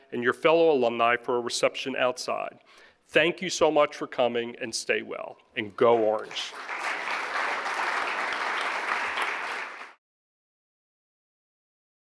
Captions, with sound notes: and your fellow alumni for our reception outside. Thank you so much for coming and stay well, and go orange. (audience applauding)